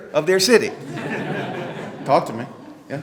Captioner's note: group laughing